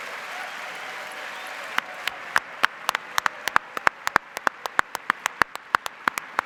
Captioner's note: applause